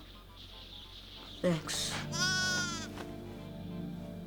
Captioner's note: lamb bleats